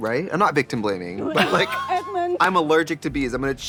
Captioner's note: Katya laughs